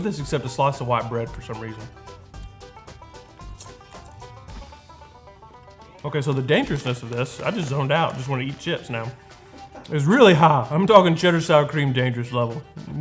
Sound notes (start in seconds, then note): 3.8 chip crunching